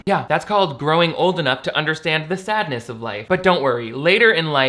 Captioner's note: none